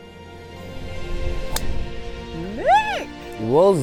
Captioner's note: golf club thwacks